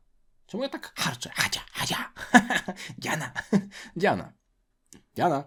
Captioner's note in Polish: śmiech